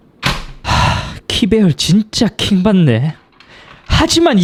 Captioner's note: sigh